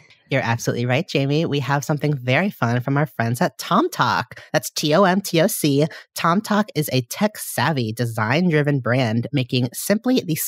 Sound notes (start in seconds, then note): none